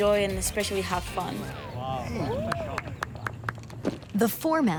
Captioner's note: crowd clapping